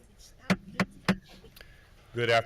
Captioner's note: gavel bangs